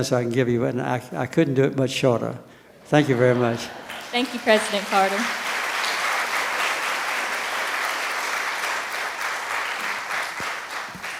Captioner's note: applause